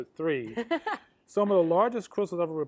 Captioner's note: laughs